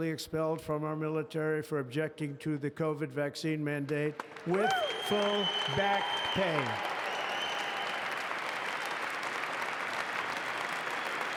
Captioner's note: applause